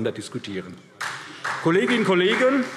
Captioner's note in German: Beifall SPD